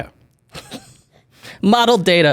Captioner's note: chuckles